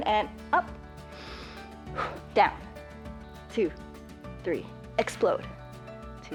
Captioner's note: inhales and exhales